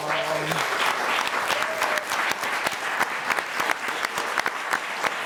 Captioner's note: audience applauding